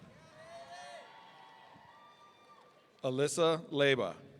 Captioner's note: audience cheering